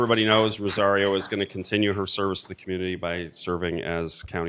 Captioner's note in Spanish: Aplausos